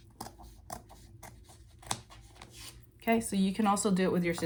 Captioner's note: scissors cutting